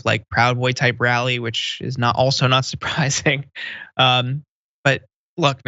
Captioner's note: laugh